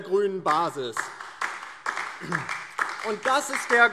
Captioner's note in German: Beifall DIE LINKE